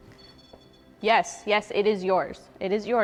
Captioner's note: REM pod beeping